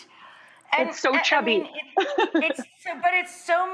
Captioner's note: laughs